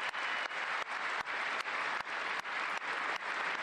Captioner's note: cheers and applause